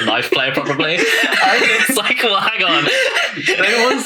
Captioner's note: laughing